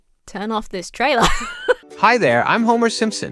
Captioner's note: laughs